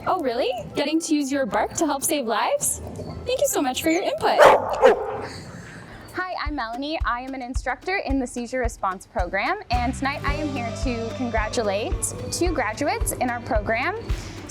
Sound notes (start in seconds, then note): 4.3 barks in agreement